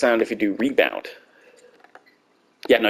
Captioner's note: complete silence